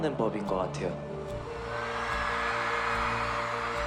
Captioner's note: fans cheer